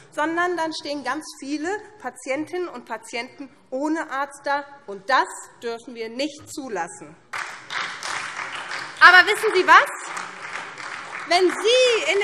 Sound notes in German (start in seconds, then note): 7.3 Beifall SPD